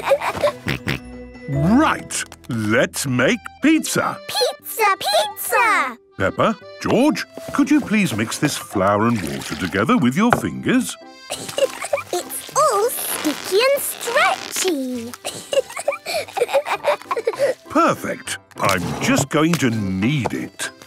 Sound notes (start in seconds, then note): 15.3 both laughing